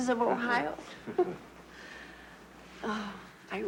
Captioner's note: both laugh